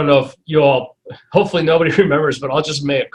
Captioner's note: chuckles